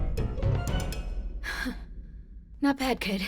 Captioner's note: heavy breathing